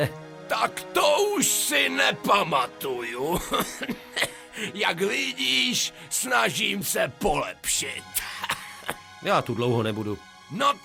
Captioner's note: laugh